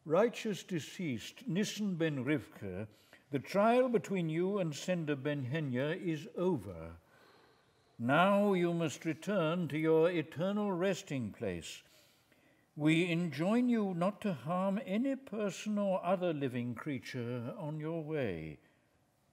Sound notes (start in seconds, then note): none